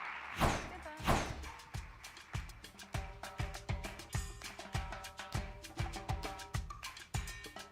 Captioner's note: applause